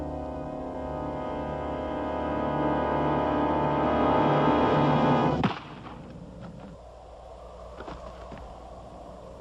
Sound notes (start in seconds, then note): 5.4 gunshot